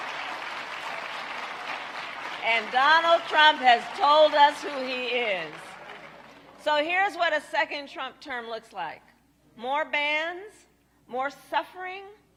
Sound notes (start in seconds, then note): 4.0 applause